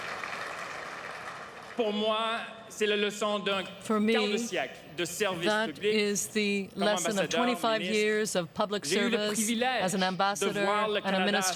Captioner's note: applause